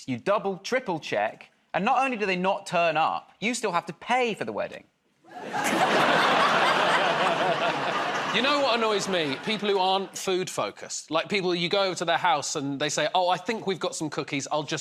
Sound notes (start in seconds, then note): 5.3 laughter